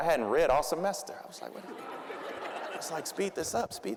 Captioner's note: audience laughing